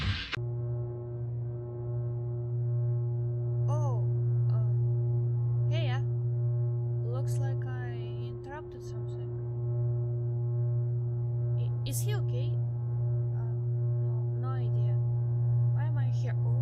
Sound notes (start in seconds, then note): 0.3 electric buzz; 9.8 electric buzz continius